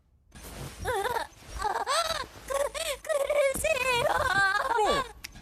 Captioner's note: voice glitching, stuttering